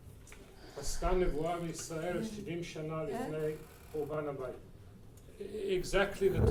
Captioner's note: speaking in foreign language